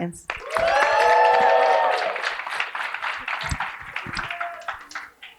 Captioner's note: cheering and applause